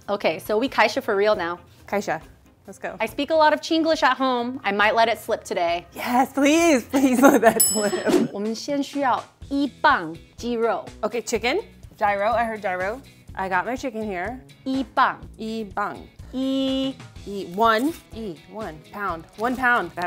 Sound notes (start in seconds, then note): 1.1 speaking in mandarin; 7.5 bell rings; 8.6 speaking in mandarin; 13.7 speaking in mandarin